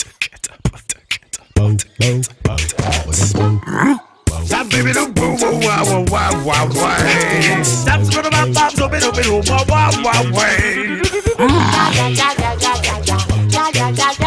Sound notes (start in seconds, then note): 0.0 tortoise beatboxes; 4.1 all scat